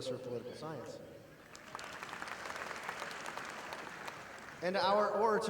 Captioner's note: audience applauding